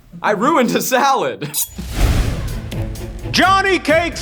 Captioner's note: laughs